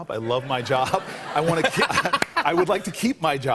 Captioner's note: laughs